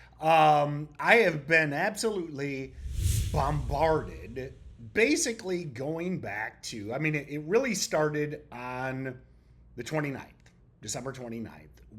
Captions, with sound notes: I have been absolutely (text whooshing) bombarded, basically going back to, I mean, it really started on the 29th, December 29th,